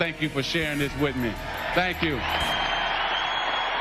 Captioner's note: crowd cheers